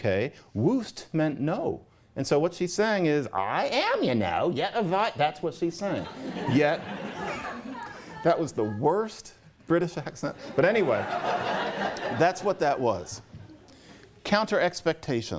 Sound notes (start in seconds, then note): 5.9 laughter; 10.3 laughter